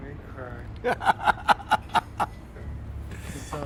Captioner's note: laughing